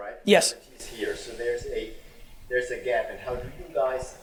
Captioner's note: murmurs